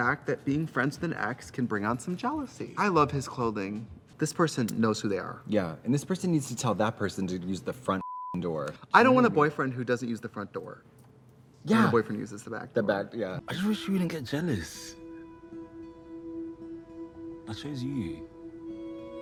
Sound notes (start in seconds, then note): 8.0 beep; 14.9 gentle music